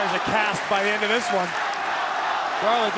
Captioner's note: crowd cheering